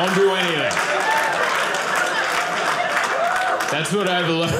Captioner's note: audience applauding